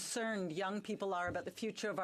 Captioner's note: speaking French